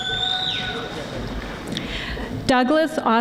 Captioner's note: audience applauding